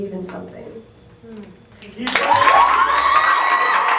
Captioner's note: whooping, cheering